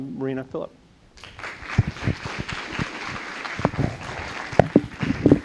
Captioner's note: applauding